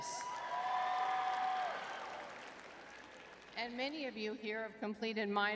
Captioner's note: audience cheering